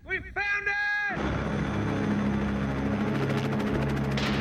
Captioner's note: helicopter blades whirring